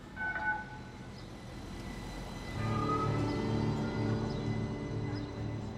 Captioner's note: birds chirping; soft music